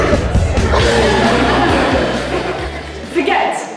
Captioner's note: audience laughs